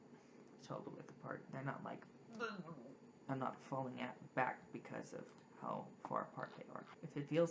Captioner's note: grunts